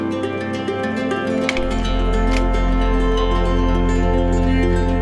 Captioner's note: projector clicks